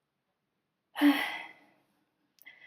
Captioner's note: sigh